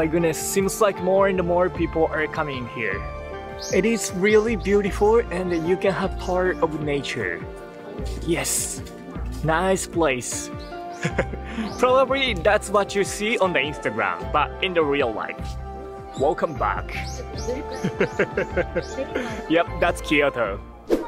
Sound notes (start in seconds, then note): 17.8 chuckle